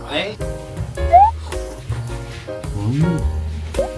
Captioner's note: slurp